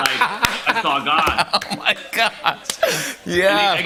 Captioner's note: laughing